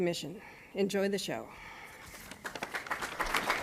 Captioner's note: applause